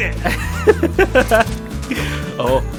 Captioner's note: laughs